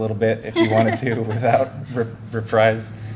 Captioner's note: laughter